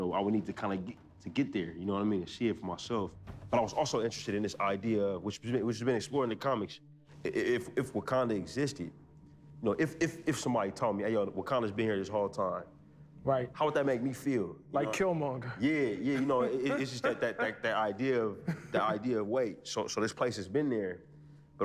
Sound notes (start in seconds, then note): 15.4 laughs